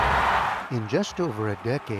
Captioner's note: cheering